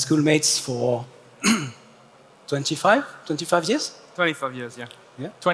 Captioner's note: clears throat